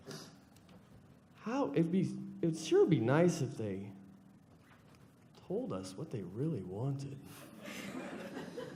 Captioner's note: laughter